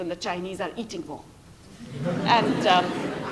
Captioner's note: laughter